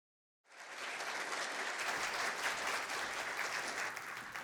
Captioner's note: applause